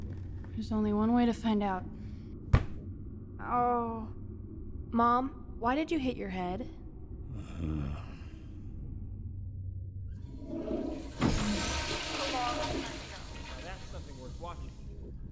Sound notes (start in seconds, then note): 7.4 Kyle groaning; 10.2 toilet flushing